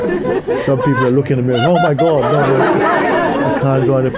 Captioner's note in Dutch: meer gelach